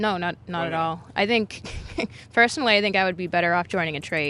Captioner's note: chuckling